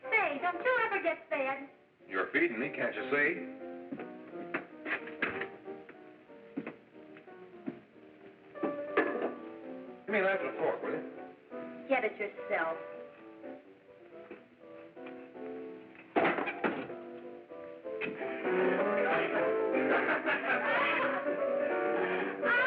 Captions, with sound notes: Hey, don't you ever get fed? - You're feeding me, can't you see? Give me a knife and fork, will you? - Get it yourself. (bangs chair) (laughing)